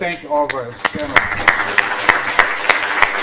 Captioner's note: applause